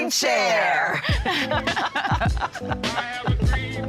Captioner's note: laughter